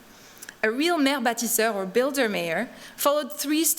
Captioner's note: non-english speech